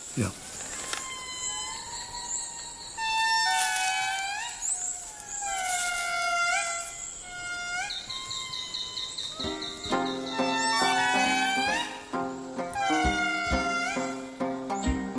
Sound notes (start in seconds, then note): 0.9 lemur cry; 7.2 lemur cry; 10.8 upbeat music